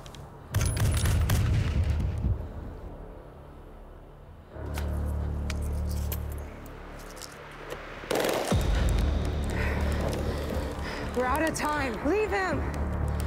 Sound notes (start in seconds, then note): 0.5 gun banging; 9.2 heavy breathing